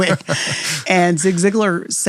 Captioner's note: laughs